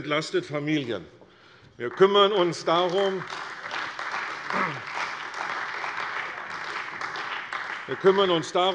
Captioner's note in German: Beifall bei der CDU und dem BÜNDNIS 90/DIE GRÜNEN